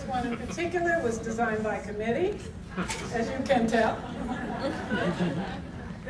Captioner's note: audience tittering